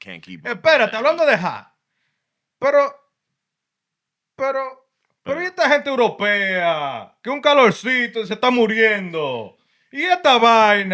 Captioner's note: non-english Speech